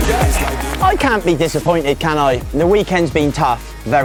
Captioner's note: laughs